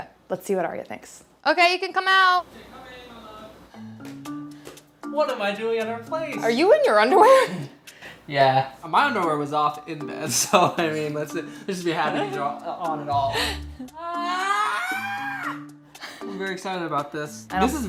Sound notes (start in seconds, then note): 14.0 screams